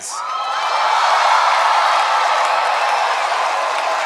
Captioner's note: cheering